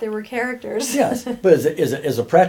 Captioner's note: laughs